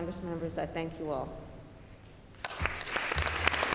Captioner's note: applause